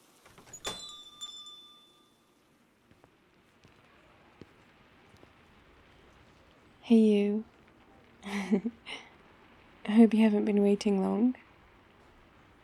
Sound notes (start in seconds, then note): 0.3 door opens - bell rings; 0.5 footsteps; 8.0 laughs